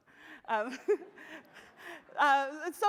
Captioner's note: laughs